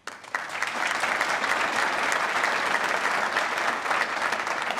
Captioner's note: applause